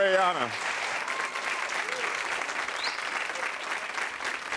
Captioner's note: crowd cheering